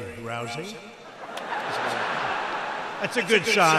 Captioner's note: laughter